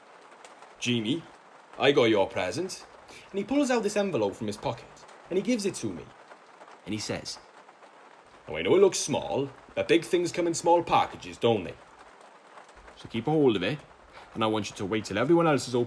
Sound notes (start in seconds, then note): 6.9 imitating dad again